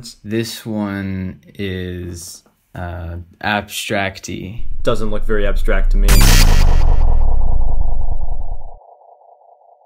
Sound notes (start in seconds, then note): 5.9 electronic Screech